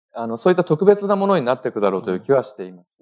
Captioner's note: speaking japanese